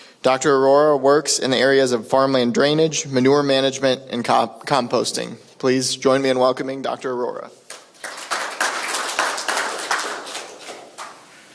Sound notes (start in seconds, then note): 7.7 crowd applauds